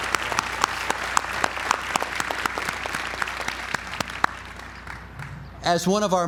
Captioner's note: applause